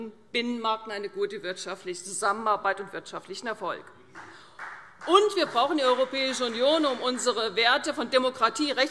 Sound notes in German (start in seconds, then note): 4.1 Vereinzelter Beifall CDU